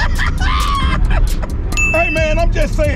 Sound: laughs

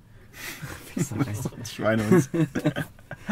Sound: laughter

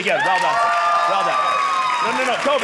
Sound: audience cheering

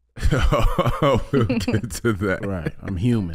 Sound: laughing

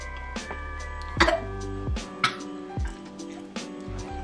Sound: coughs

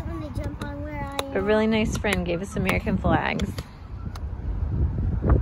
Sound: clapping

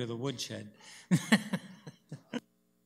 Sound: laughs

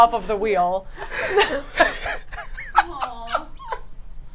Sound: all laugh

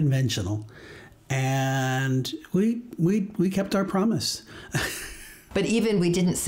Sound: laughs

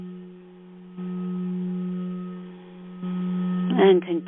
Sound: vibrating tone

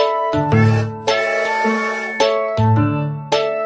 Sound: train whistling

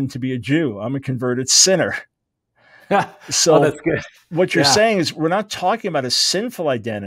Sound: laughs

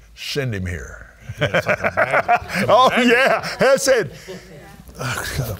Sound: laughing

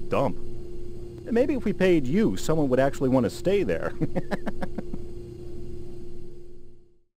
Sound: laughs

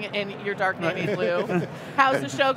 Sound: laugh

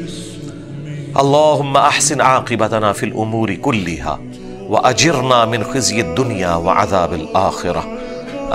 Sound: Arabic

